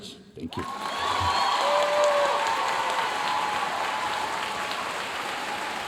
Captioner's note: audience cheering and applauding